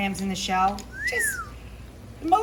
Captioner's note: whistles